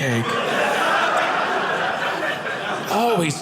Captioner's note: audience laughing